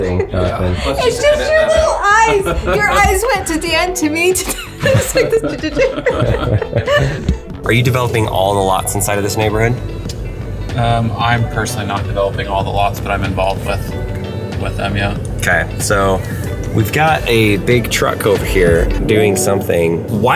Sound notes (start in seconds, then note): 4.4 everyone laughs